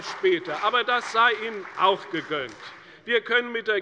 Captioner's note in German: Beifall bei der CDU und dem BÜNDNIS 90/DIE GRÜNEN